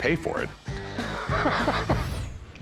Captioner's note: laughs